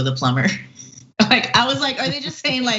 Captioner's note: laugh